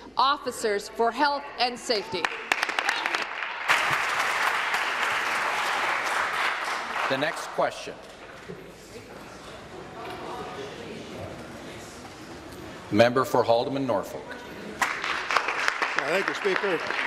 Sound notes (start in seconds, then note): 5.0 applause